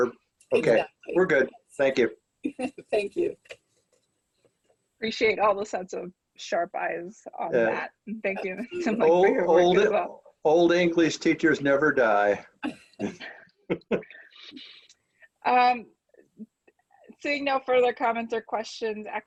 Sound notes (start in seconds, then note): 13.7 all chuckling